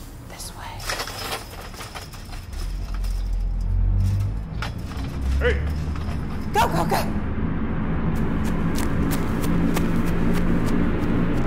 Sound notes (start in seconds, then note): 0.9 gate rattles; 8.2 suspenseful music